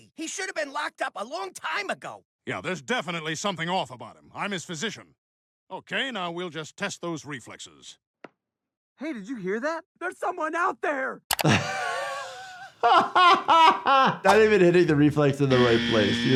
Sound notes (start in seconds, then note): 11.4 laughing